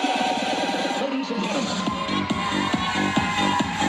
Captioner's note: upbeat, electronic music; cheering